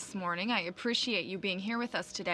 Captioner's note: speaking french